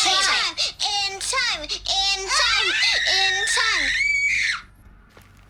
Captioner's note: screams